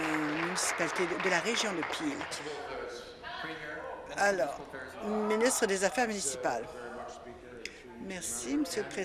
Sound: applause

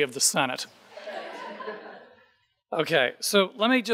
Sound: audience laughing

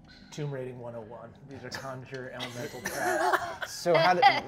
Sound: all laughing

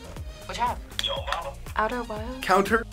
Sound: buzzer

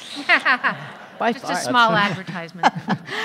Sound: audience laughing

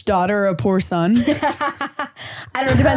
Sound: laughing

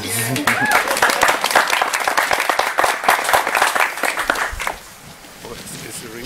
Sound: applause

